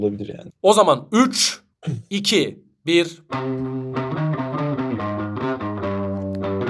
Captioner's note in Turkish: boğazını temizler